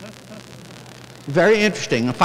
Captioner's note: chuckling